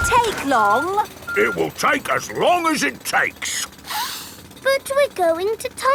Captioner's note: sniffs